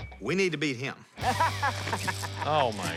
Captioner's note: laughing